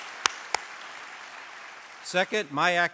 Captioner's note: applause